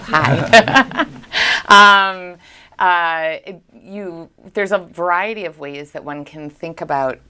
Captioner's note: laughs